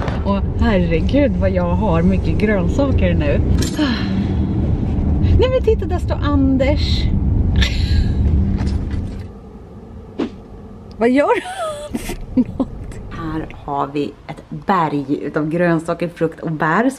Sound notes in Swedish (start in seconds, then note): 3.7 utandning; 7.7 skratt; 9.7 swosh-ljud